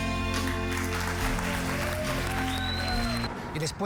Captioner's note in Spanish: aplausos